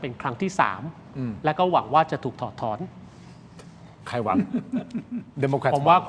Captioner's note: laughs